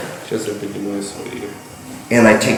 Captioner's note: speaking in a foreign language